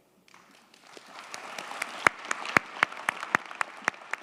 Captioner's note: crowd clapping